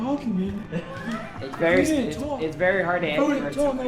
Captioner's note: laughing